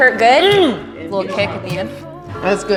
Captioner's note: grunting